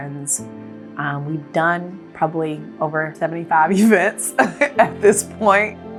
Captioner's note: laughs